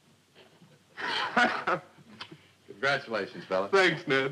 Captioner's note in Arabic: يضحك